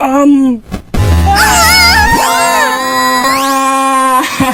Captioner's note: loud distorted tone; laughs